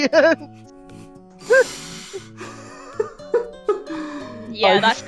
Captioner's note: laughter